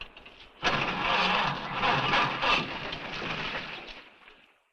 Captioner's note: engine cranks